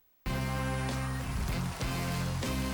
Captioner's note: cheers and applause